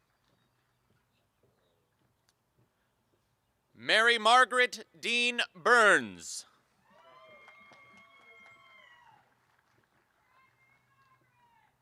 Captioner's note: applause